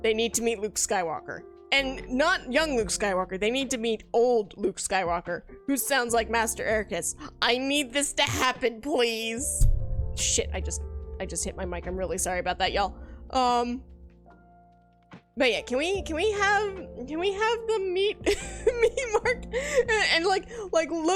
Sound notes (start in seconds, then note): 19.2 laughs